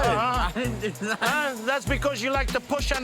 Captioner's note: laughs